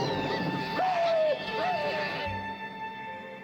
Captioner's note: whimpering; yelping